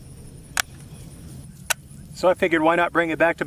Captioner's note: safe clicks off